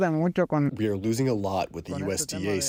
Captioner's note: through translator